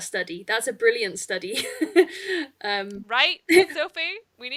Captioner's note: laughs